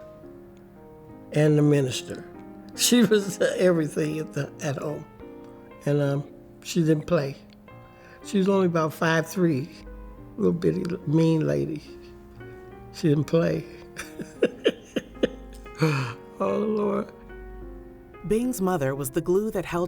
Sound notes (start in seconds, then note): 13.9 laughs; 17.4 lively piano music